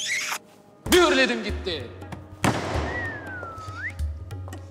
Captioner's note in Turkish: Islık